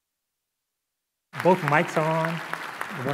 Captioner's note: applause